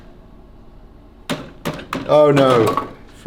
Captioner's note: handle clanks; fingers thudding